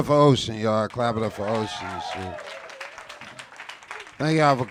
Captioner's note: audience clapping